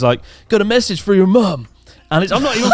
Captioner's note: laughing